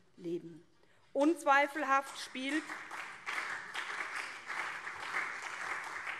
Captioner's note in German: Beifall SPD und vereinzelt CDU